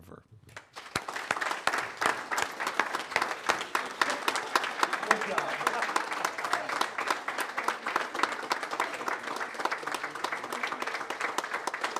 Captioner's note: applause